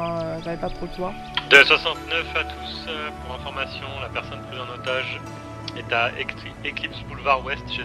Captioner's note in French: radio